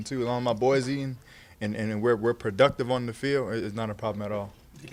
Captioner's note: stutters